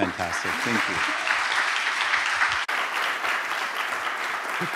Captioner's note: applause